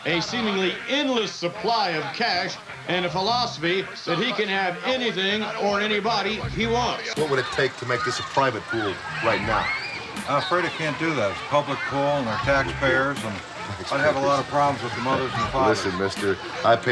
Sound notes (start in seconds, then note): 14.8 laughing